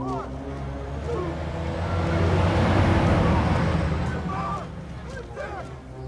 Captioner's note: truck rumbling